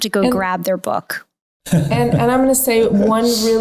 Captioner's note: laughing